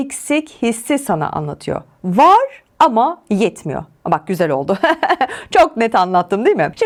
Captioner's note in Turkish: kahkaha